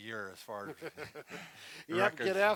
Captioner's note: laughs